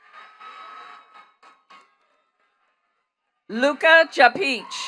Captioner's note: attendees cheering and clapping